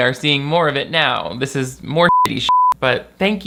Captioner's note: beep